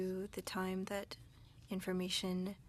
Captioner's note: speaking French